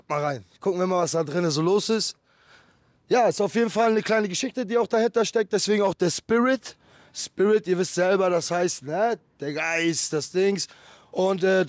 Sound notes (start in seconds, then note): 7.4 explains in German the meaning of Spirit